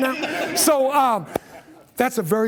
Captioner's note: laughter